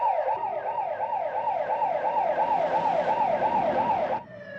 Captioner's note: polis Sireni Blaring